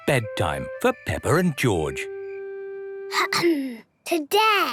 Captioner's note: clears throat